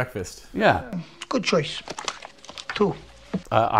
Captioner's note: menu booklet thuds